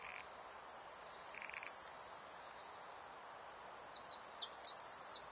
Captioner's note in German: Vogelgezwitscher